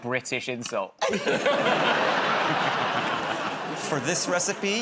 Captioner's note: laughter